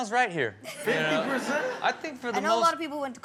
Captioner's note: audience laughs